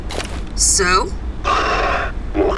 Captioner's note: Flint sighs